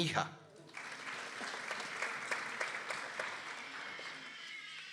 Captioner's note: people applauding